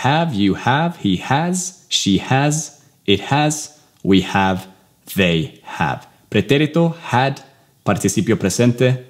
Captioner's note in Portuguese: Inglês